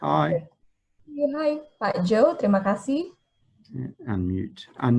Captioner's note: speaking in foreign language